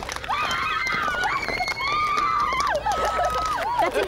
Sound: girls cheering

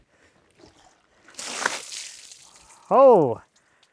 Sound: water splashing

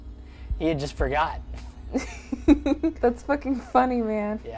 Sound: Aileth laughs

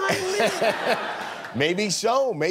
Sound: laughter

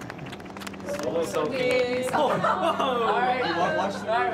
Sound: applause; overlapping chatter, laughter

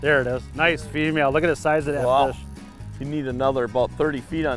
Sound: voiceover

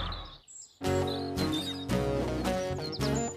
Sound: birds Chirping

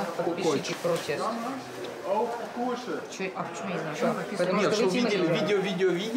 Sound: speaking Russian

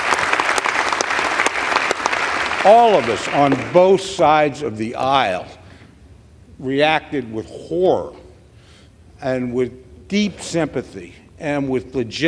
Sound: applause

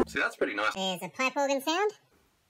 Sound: weird voice effect; pitched up

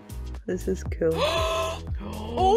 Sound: gasp

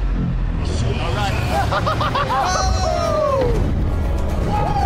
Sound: yelling

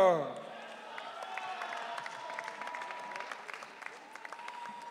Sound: audience cheering

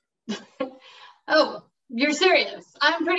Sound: laughs

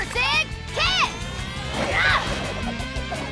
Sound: grunting

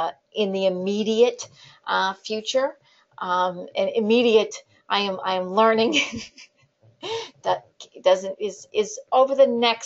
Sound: laughter

